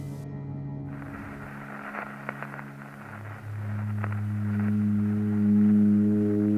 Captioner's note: static, music begins